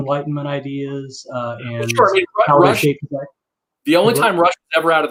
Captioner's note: murmuring